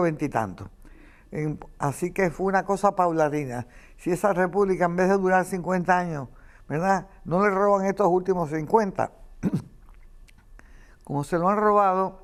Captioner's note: coughs